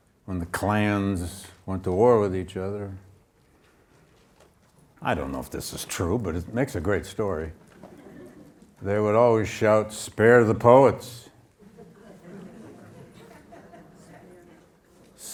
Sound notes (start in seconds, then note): 7.8 audience laughing; 11.6 audience laughing